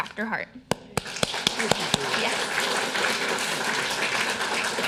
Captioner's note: audience applauding